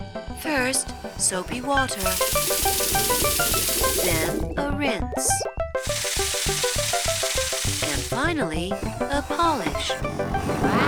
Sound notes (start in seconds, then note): none